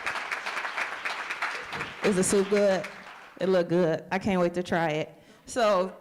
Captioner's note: applause